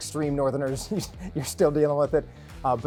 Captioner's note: chuckles